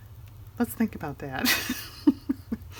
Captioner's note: laughs